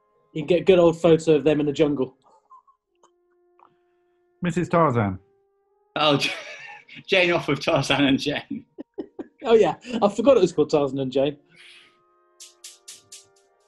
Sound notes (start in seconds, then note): 6.1 laughs; 8.4 giggling